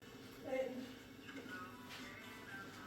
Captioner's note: kitchen ambience